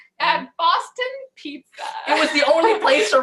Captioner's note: laughs